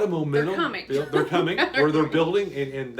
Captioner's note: laughs